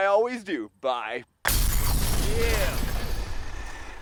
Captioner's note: explosion